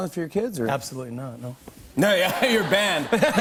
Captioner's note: laughter